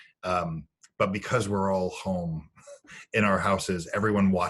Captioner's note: laughing